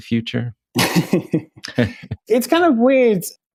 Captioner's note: laughs